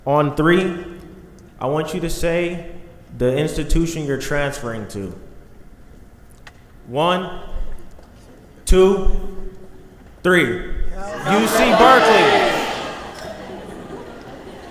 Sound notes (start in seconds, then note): 8.3 crowd shouting; 12.6 clapping